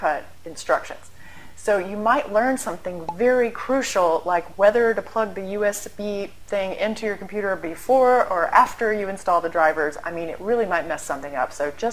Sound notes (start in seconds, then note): 3.0 pop